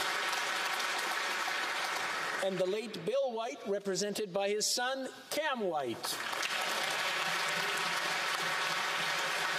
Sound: applause

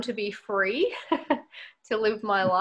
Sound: laughs

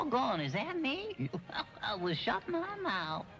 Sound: chuckles

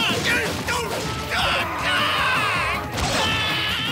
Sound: screaming

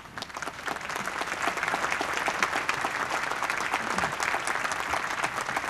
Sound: applause

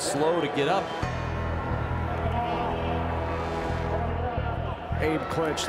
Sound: crowd noise

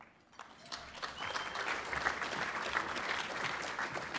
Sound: applause

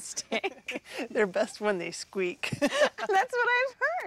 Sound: laughs; laughs

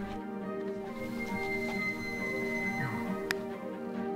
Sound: elk bugling

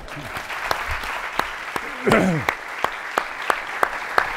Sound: audience applauding

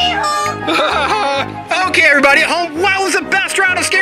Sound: laughs

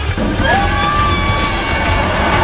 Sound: screaming

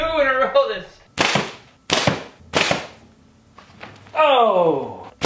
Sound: loud snapping

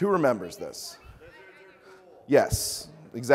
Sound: audience mumbles

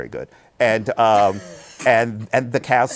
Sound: laughs

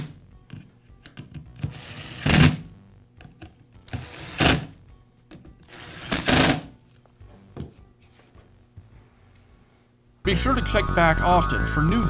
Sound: screwing tool sound

